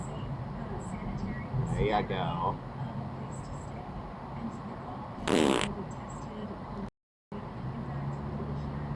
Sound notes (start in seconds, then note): 5.2 fart